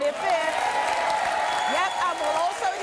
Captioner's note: audience applauding and cheering